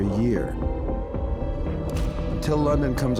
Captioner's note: air raid siren blaring